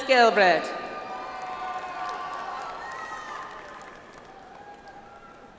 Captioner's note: audience applauds